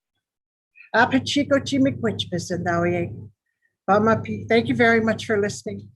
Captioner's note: speaking in foreign language